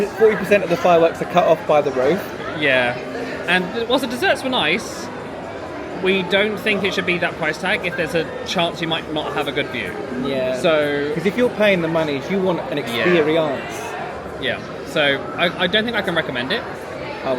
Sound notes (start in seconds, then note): none